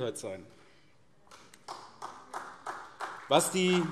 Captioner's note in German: Vereinzelter Beifall SPD